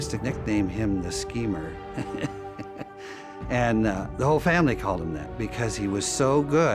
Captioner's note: laughs